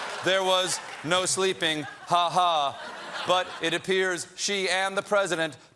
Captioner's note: laughter